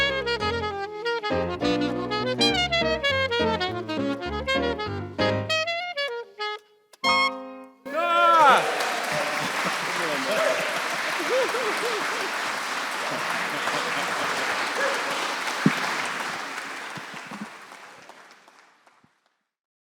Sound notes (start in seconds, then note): 7.8 audience cheering and clapping